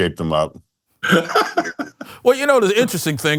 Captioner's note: laughs